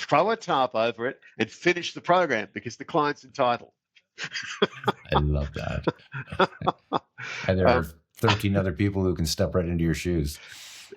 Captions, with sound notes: throw a tarp over it and finish the program because the client's entitled. (laughs) I love that. (laughs) And there are 13 other people who can step right into your shoes.